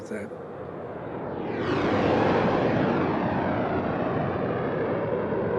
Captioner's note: jets roaring